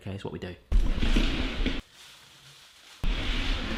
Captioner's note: shuffling